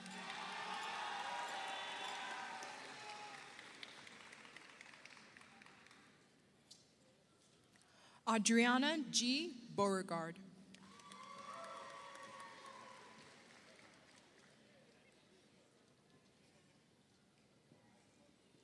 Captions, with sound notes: (audience applauds) (audience cheers) Audriana G. Beauregard, (audience applauds) (audience cheers)